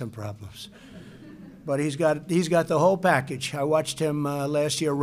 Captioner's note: laughter